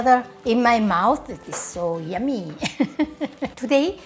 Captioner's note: laughs